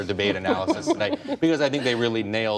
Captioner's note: laughter